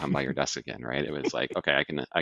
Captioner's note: laughs